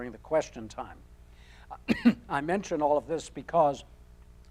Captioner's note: coughing